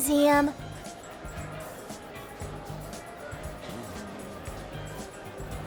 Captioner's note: museum patrons chattering